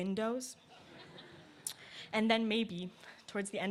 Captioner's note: laughter